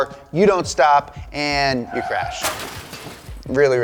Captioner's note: clatters